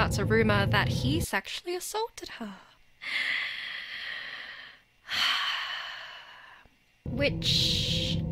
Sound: sighing heavily

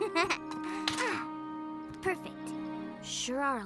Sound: chuckles; sighs

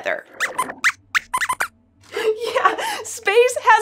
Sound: squeaks squeaks

